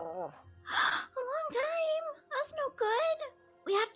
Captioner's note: gasps